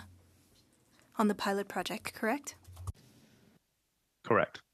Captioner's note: speaking French